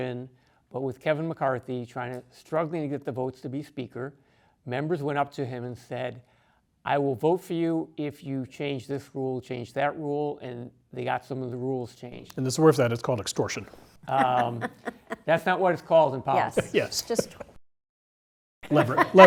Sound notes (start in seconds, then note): 14.0 laugh